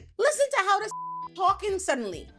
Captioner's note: beep